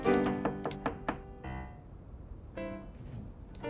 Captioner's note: knocking at the door